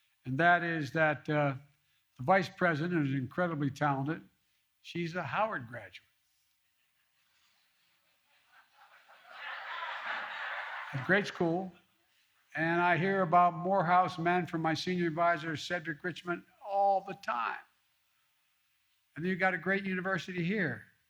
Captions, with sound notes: And that is that the Vice President is incredibly talented. She's a Howard graduate. (laughter) A great school and I hear about Morehouse men from my senior adviser, Cedric Richmond, all the time. And you got a great university here.